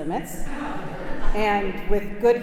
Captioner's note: congregation laughing